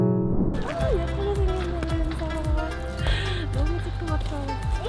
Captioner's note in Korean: 후다닥